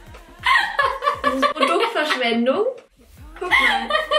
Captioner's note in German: lacht